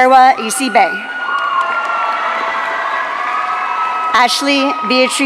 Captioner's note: audience cheering